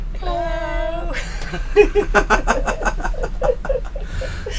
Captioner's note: all laugh